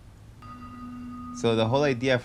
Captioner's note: bell chimes